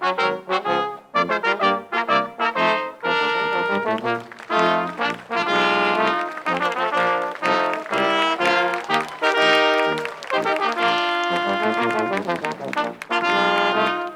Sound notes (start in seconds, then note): 3.4 crowd applauds